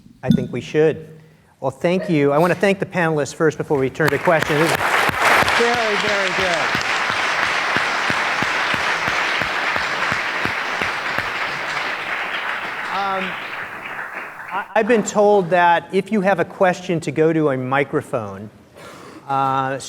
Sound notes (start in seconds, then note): 6.5 applause